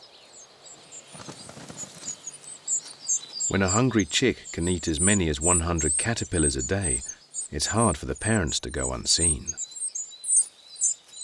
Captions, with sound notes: [babies chirping] When a hungry chick can eat as many as 100 caterpillars a day, it's hard for the parents to go unseen.